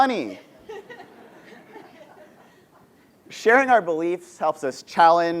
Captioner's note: laugh